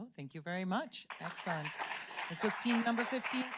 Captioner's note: audience applauds